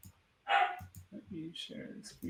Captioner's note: dog barks